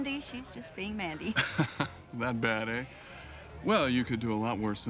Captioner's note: laughs